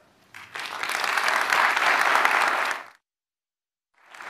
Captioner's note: applause